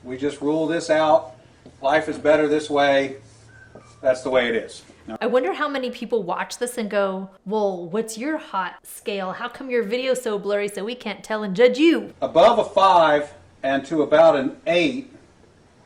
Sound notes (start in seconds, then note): none